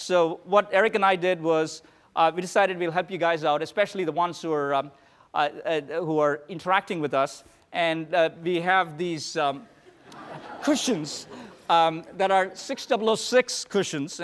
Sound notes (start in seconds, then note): 9.7 laughter